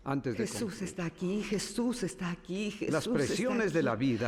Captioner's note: whispering